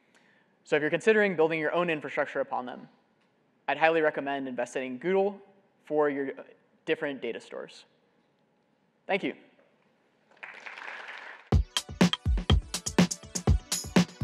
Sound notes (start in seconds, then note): 10.2 applause